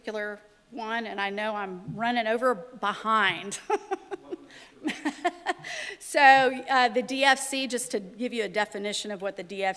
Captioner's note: laughter